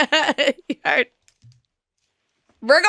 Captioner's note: laughing